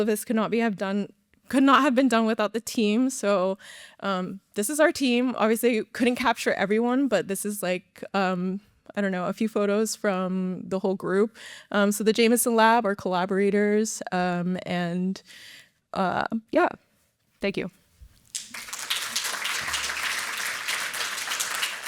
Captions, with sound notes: this could not have been done without the team, so this is our team. Obviously, couldn't capture everyone, but this is a few photos from the whole group. The Jamison Lab are collaborators. Thank you. [APPLAUSE]